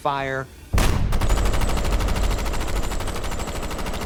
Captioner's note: gunfire ringing out